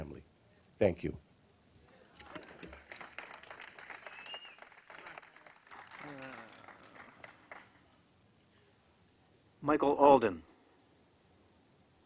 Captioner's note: applause